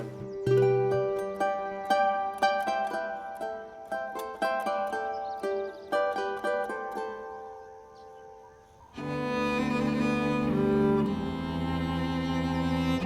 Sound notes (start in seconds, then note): 4.9 birds chirping; 9.1 idyllic instrumental music